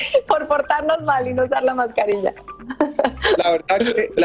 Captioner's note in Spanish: risas